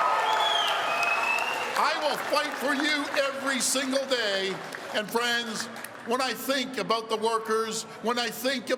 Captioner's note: cheering